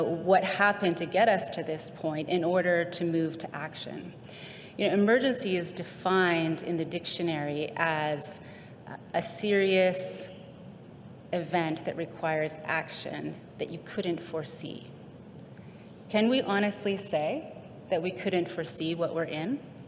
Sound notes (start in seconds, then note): none